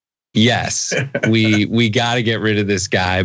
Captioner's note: laugh